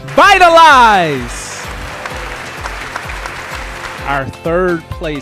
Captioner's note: audience applauding and cheering